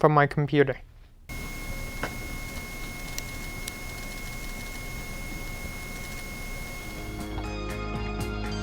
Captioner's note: hard Drive Noises